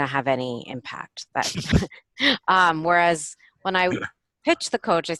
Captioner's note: lauging